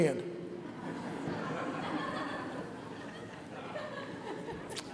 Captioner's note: audience laughs